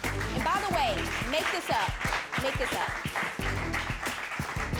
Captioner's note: audience applauding